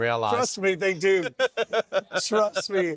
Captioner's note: laughing